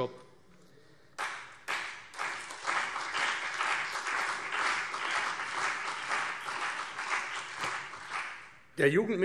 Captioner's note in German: Beifall CDU und BÜNDNIS 90/DIE GRÜNEN